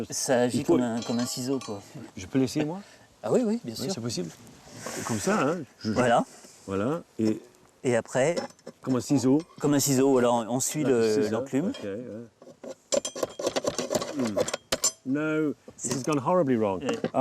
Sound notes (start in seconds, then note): 0.2 speaking in French; 12.8 metal clanking